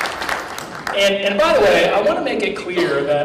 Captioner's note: applause